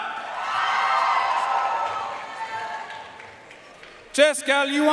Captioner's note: audience cheering and applauding